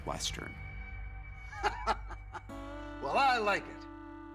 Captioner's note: laughter